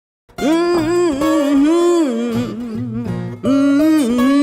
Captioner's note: woman humming